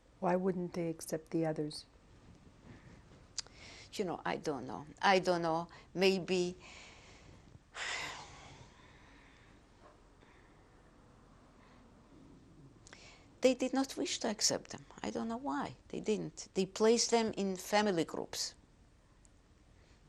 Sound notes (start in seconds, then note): 7.8 sighs; 8.4 pauses for 3 seconds